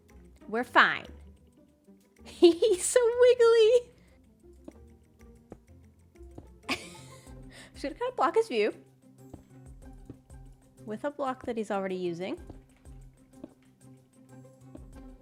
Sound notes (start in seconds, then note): 6.7 laughs